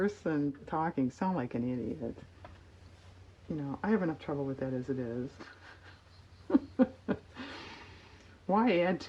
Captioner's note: laughs